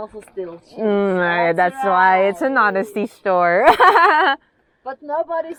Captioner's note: laughs